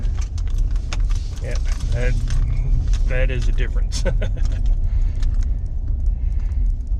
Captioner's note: laughing